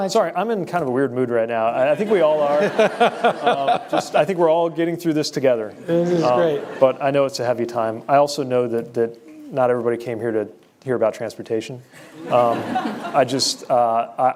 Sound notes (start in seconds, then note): 2.0 laughter